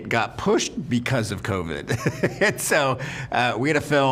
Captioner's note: laughs